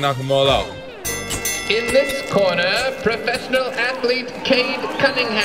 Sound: bell rings

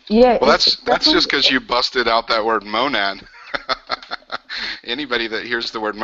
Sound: laughs

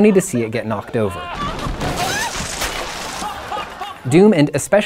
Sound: loud crashing and laughing

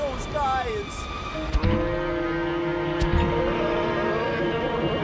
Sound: shouting in slow motion

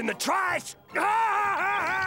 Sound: laughing

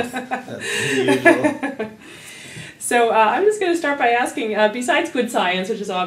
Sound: laugh

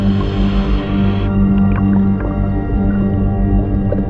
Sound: water bubbles

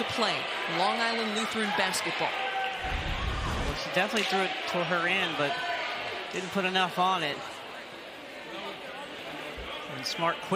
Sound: crowd noise

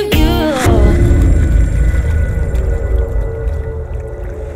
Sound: dramatic sounds

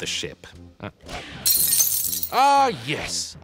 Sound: glass shattering

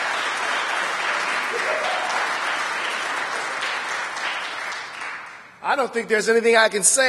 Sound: applause

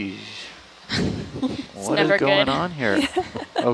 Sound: scientist laughing

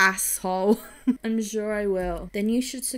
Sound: laughs

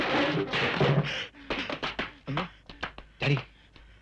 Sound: panting

